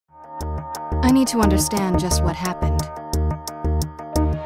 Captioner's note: voiceover